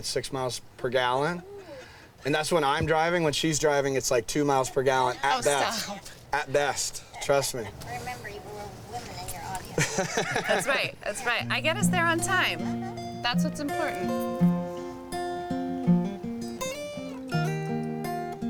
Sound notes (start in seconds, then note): 12.0 Robert laughs; 13.0 guitar strums; 15.5 guitar playing